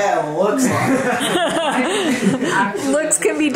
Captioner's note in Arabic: الجميع يضحك